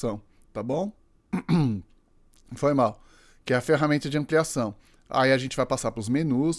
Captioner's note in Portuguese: limpando a garganta